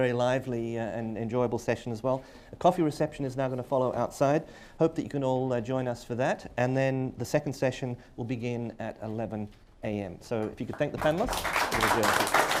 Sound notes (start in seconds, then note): 10.7 applause